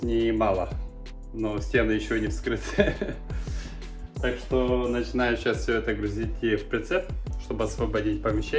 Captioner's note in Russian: смех